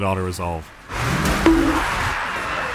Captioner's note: dunk